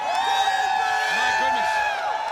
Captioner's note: audience cheering